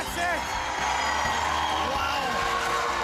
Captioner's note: crowd cheers